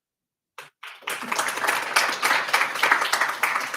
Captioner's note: applause